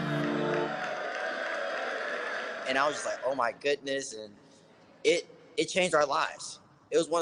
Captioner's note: applause